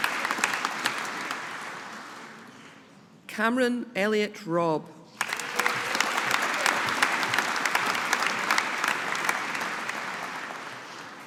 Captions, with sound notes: Cameron Elliot Robb. (AUDIENCE APPLAUDING)